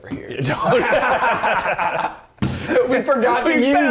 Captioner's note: laughing